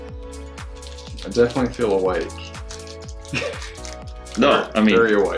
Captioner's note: laughs